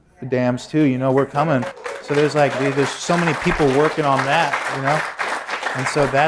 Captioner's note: applause